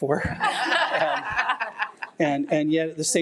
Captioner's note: trustees laughing